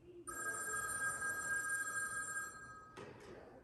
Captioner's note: phone rings